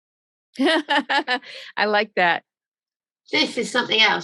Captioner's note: laughing